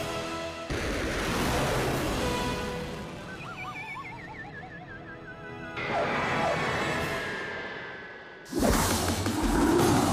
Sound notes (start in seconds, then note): 1.1 rocket launching; 4.1 comical music; 6.6 rocket breaking